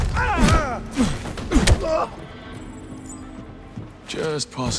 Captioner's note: groaning